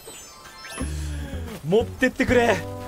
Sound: taking a deep breath to calm himself

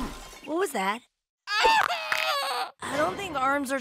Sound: crashing; screaming

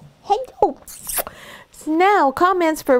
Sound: lips smacking

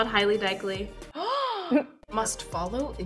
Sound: Myha'la gasps

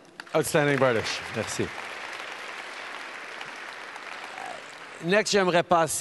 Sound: applause

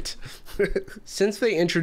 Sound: chuckles

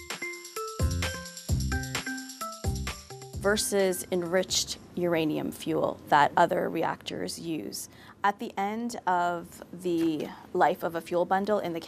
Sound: voiceover

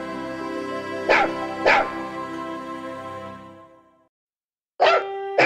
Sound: dog barking

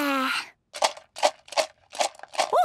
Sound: objects shaking

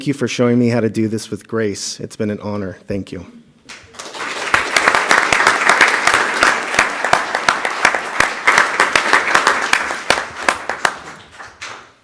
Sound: applause

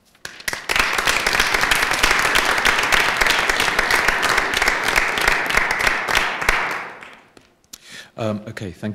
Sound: applause

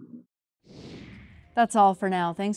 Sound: air whooshing

